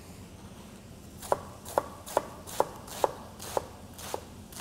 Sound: chopping sounds

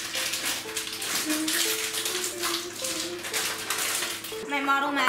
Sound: lighthearted piano music; humming

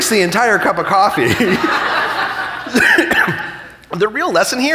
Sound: chuckling

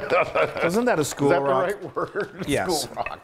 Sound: laugh

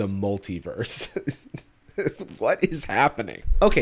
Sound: laughs

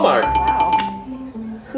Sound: bell dinging

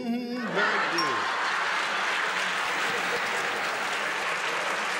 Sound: applause

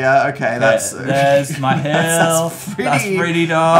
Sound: laughing

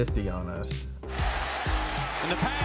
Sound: people cheering

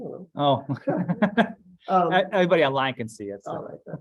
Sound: laughs

